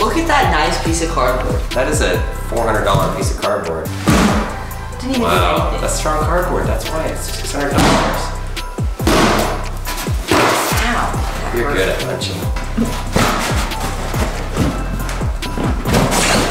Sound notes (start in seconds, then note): 3.9 box booms; 9.0 fist smacking; 12.7 cardboard thumping